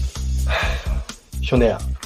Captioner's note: sighs